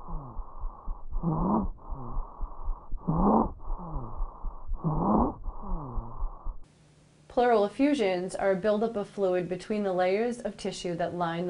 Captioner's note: heavy, labored breathing